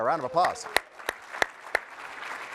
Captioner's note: applause